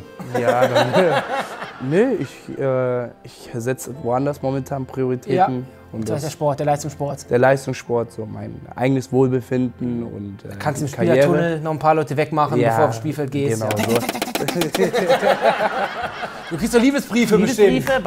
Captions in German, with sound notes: Können wir auch machen. - Ja ... Nee, ich ... Ich setzt woanders momentan Prioritäten. Der Leistungssport. Der Leistungssport, mein eigenes Wohlbefinden. Kannst im Spielertunnel Leute wegmachen, bevor du aufs Spielfeld gehst. Tack-tack-tack. (Lachen) Du kriegst doch Liebesbriefe bestimmt.